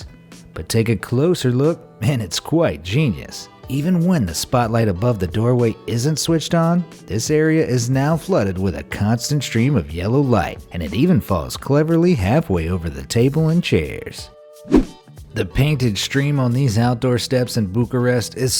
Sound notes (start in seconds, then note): 14.6 air whooshing